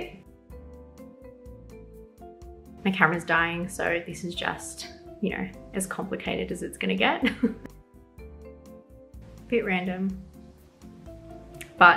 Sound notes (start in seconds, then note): 0.2 soft music; 7.2 chuckles; 7.8 soft music